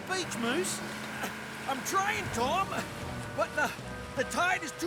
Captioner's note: straining